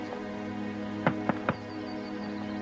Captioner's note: knocking